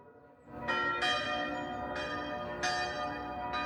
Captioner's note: ringing church bells